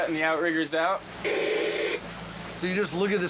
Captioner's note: static white noise